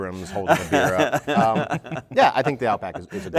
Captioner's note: laughter